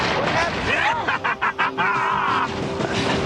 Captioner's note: laughing